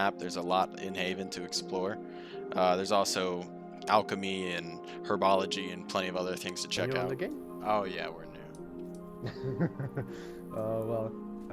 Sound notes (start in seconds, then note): 9.2 ominous Laugh